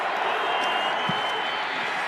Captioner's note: booing